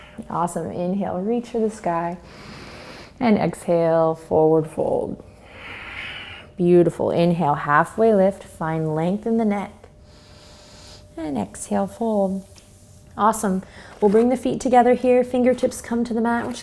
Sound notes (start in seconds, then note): 0.0 exhales; 2.3 inhales; 5.7 exhales; 10.1 inhales